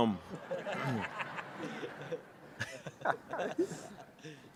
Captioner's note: laughter